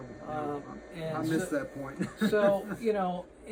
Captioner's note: chuckles